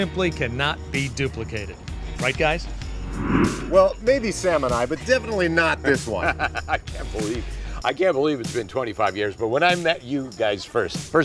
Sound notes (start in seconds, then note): 2.8 air whooshing; 6.2 laughs